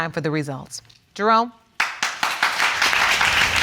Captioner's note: audience applauding